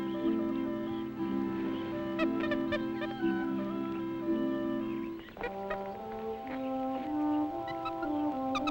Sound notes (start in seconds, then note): 2.4 animal chattering; 2.4 gentle music